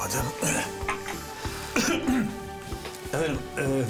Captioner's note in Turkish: Emin boğazını temizledi